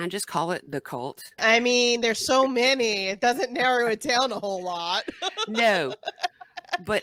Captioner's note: laughing